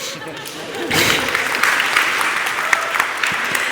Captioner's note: applause